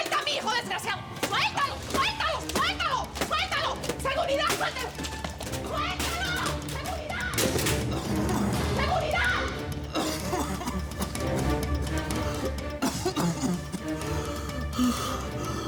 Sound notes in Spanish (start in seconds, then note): 1.9 Golpes; 7.4 Ruido al caer; 10.7 Antonio tose